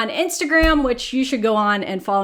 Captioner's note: text popping